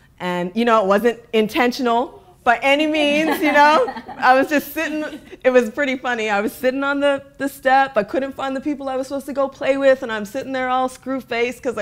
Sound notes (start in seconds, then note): 3.0 laughing